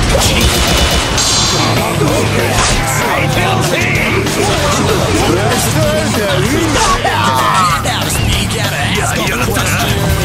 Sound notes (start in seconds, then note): 6.6 KO Scream